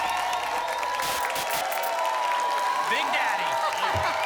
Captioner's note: applause and cheering cont; static; laughs